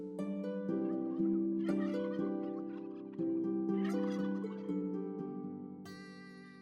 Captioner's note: turkey gobbling